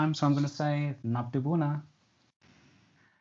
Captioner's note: speaks Romanian